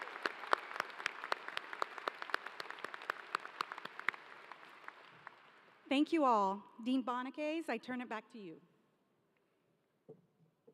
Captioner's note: applause